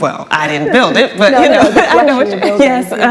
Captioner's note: laughs